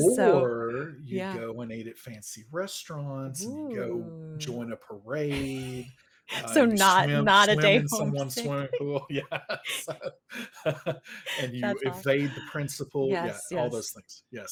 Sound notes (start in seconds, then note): 9.8 both laugh